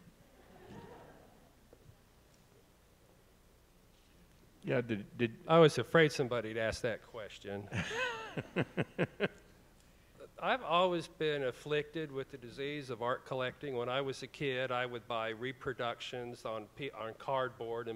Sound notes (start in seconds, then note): 0.4 audience chuckling; 7.7 laughs